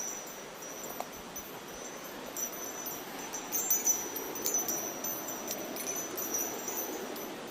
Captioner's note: river rushing